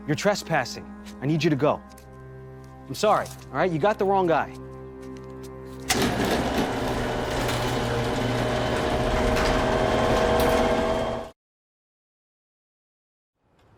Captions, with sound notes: You're trespassing, I need you to go. I'm sorry, all right? You got the wrong guy. (gate whirring)